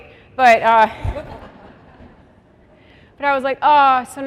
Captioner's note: laughter